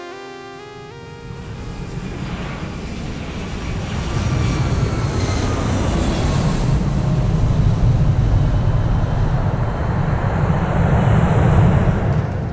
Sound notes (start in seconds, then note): 1.7 Engine roars